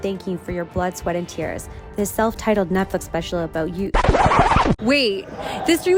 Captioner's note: record scratch